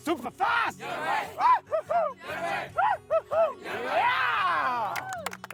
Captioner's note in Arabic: جيلبرت ينادي بصوت عالٍ; هتاف الطلاب